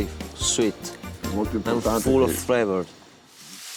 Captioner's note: speaks italian